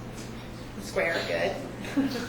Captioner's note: laughs